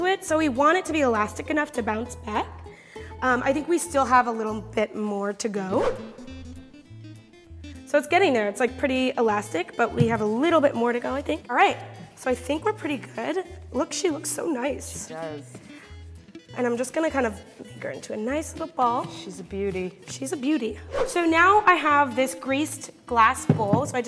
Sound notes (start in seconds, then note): 5.7 air whooshing; 5.9 guitar strumming; 20.8 air whooshing